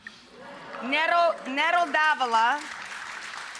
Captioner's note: audience cheers